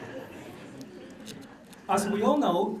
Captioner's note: laughter